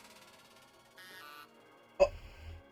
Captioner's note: confirmatory beep